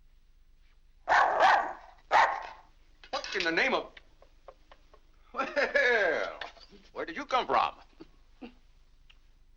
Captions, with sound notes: (dog barks) - What in the name of... Well...(laughs) where did you come from?